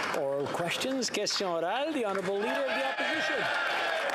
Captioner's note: some Applause